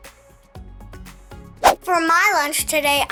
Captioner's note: upbeat music; air whooshing